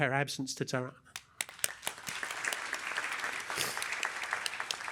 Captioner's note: applause